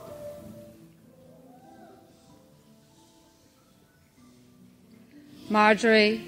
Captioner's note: person in crowd cheering; person in crowd shushing